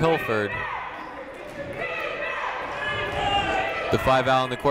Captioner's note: people chanting in the crowd